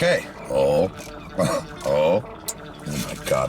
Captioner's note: chuckles